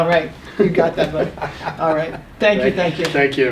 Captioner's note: laughs